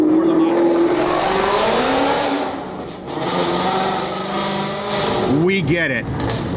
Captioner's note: loud motorcycle noises